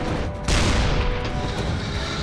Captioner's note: shell exploding; cannon firing; turret whirring